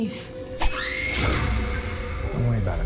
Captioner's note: Nancy screaming